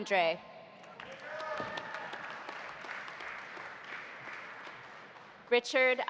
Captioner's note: audience applauding